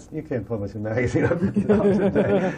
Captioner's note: laughter